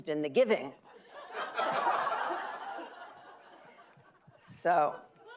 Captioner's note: audience laughing